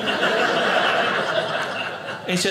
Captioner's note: audience laughing